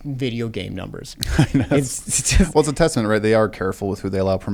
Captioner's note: laughs